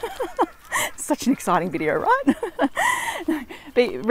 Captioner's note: laughs; laughs